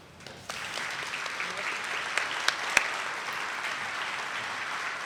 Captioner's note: attendees clapping